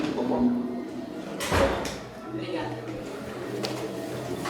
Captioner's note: door slams